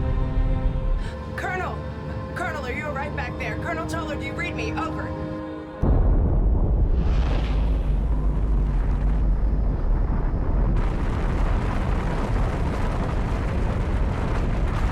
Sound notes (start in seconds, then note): 6.1 atom bomb booms